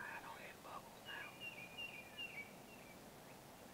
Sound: birds chirping; whispers

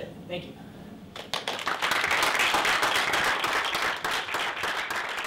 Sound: applause

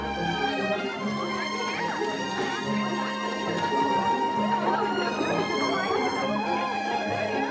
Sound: gentle music; women chattering

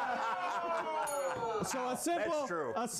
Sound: laughter; bell rings

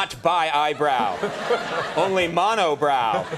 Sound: Rock and audience laughing

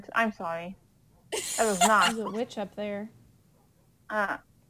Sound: laughs

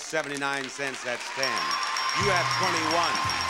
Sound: bell dings repeatedly

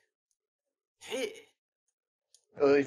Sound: old person noises

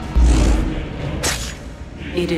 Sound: hidden blade stabbing sound

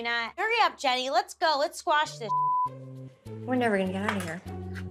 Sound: beep

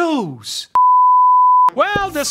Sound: sound beeps

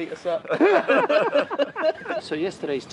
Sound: laughter

